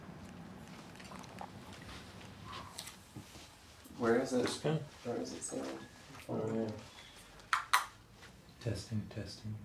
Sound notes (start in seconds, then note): 4.3 indistinct chatter